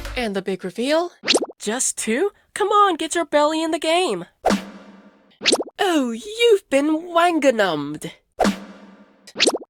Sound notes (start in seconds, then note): 5.7 in British accent